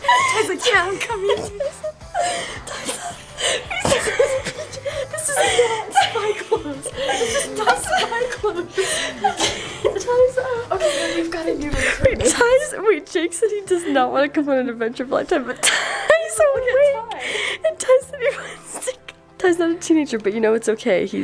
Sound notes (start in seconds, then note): 0.0 laughing hysterically; 8.6 laughing